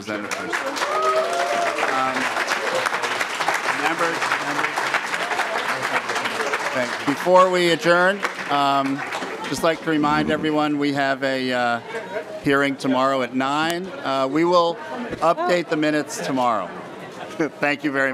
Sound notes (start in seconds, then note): 5.8 cheers and applause